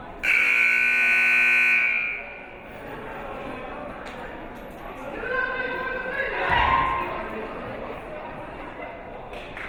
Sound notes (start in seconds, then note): 0.2 siren buzzing